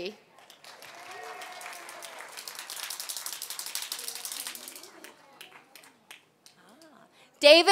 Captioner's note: applause